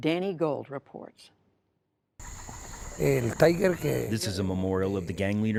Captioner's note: through translator